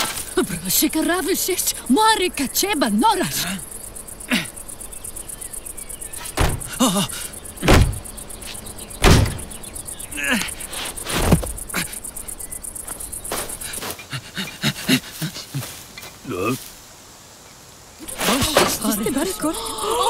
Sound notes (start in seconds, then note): 0.0 shovel scratching; 0.3 woman and man speaking in foreign language; 6.4 door thudding; 6.4 man gasps; 10.1 man grunting; 13.6 man panting; 16.2 man murmuring; 18.0 people chattering; 18.2 ironing board clunks